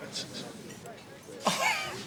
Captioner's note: chuckling